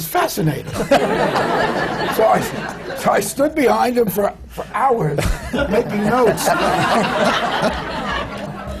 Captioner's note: laughter